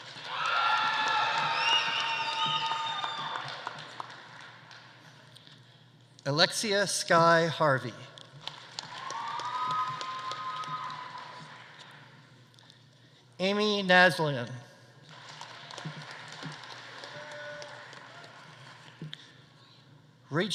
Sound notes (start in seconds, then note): 0.0 audience applauding; 0.0 audience cheering; 8.4 audience applauding; 8.8 audience cheering; 15.1 audience applauding; 15.3 audience cheering